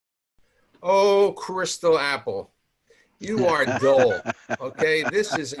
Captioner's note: laughs